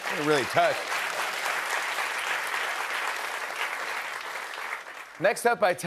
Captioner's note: applause